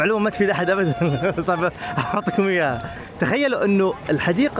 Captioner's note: laughs